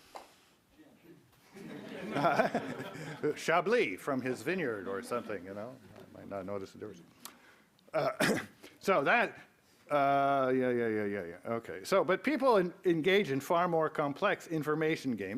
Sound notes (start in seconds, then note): 1.5 laughs